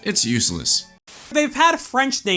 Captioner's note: static